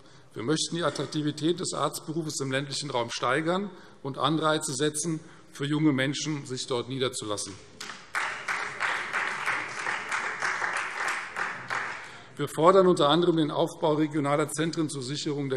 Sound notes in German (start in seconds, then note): 7.8 Beifall Freie Demokraten